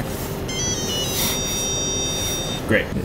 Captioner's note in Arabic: صوت رفض للبطاقة